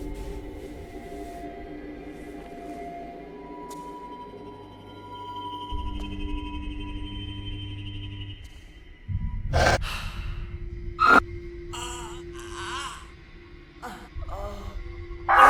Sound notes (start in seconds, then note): 9.6 Phil sighs; 9.6 snarling; 11.0 shrieking; 11.8 Phil groaning